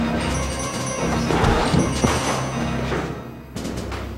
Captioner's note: dramatic music; scuffling